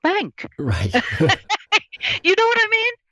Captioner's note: laughs